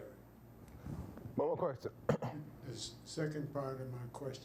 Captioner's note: clears throat